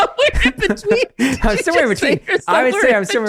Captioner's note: both laugh; laughing